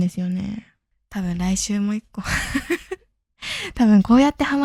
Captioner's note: laughs